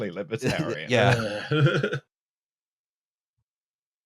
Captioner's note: laughs